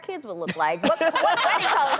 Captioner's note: laughter